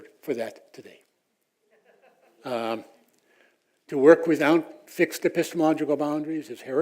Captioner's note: laugh